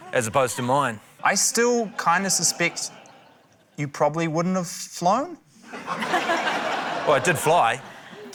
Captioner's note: laughter